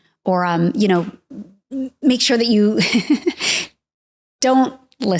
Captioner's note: chuckling